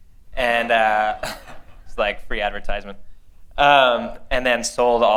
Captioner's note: laughter